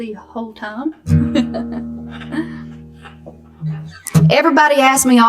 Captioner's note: laughs